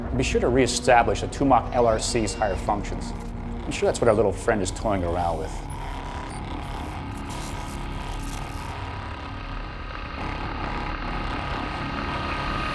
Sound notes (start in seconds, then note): 6.7 machinery humming